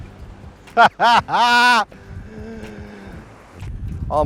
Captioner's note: laughs